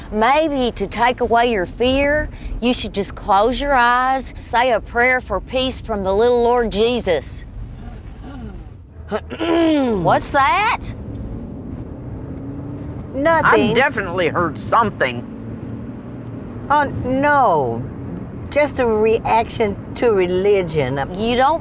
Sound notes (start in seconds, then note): 9.0 Lenora clears her throat